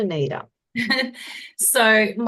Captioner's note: laughs